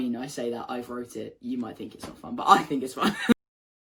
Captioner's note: laughs